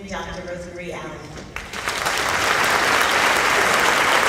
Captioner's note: applauding